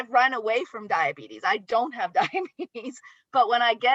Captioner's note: laughs